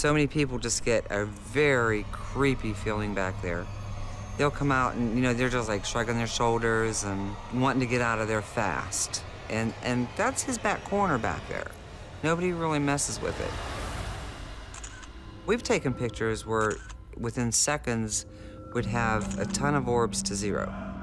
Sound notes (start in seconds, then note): 14.7 camera clicks